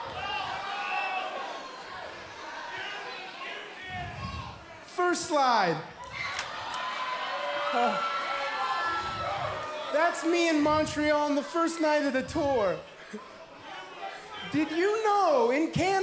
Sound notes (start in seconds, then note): 6.0 crowd chatter